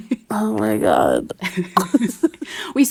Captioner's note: laughing